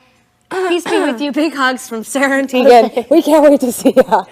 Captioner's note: clearing her throat